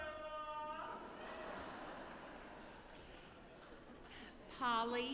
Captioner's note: audience laughing